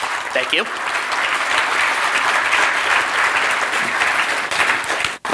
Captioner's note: audience clapping